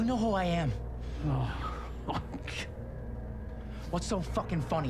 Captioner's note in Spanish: Risas